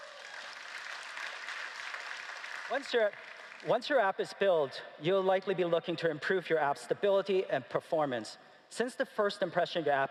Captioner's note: applause